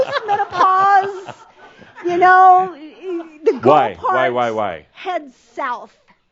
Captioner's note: more chuckles